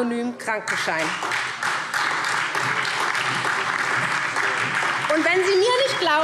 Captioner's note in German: Beifall SPD und vereinzelt DIE LINKE